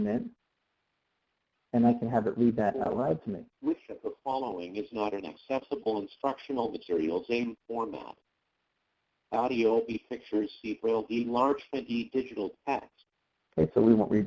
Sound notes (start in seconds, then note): 5.9 computer Voice; 11.5 voiceover